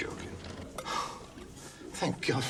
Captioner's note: John sighs